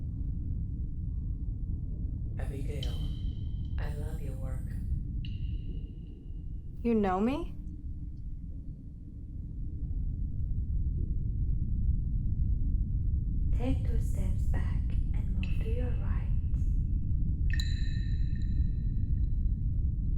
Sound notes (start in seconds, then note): 0.1 wind blows; 17.5 water drips